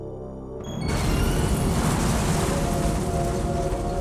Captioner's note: explosion